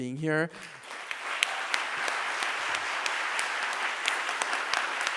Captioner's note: audience applauding